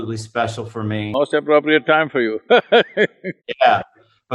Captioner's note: laughs